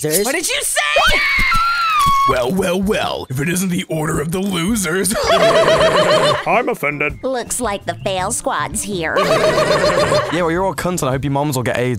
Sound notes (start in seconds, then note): 0.8 screaming; 4.0 laughing; 9.1 laughing